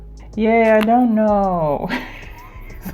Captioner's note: sarcastically